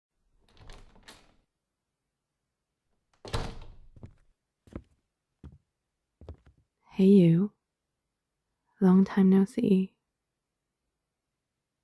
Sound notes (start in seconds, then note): 0.0 door opens and closes; 4.5 footsteps